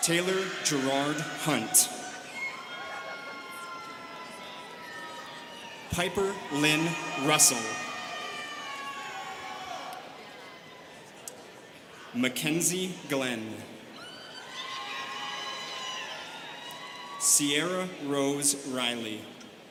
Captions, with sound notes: Taylor Gerard Hunt. (students cheering) Piper Lynn Russell. (students cheering) Mackenzie Glenn. (students cheering) Sierra Rose Reilly.